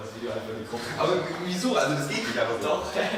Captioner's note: Tom and his friend laughing